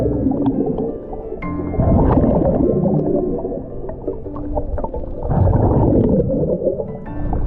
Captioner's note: suspenseful music continues; water bubbling